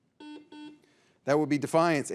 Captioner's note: signal beeps